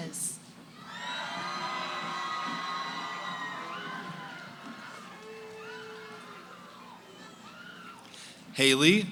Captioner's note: cheering